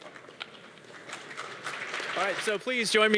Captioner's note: audience clapping